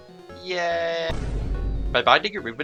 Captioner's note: antiearbleedvolumey thudboom